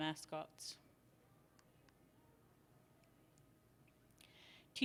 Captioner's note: silence